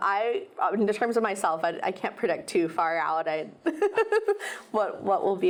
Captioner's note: laughs